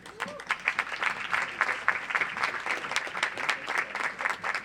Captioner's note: audience applauds